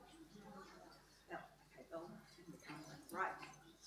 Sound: both speaking faintly

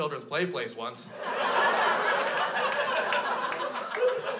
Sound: crowd laughs

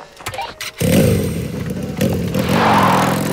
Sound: engine Starts

